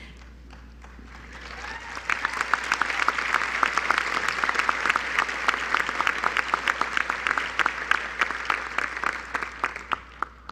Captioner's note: applause